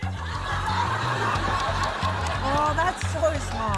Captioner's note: laughter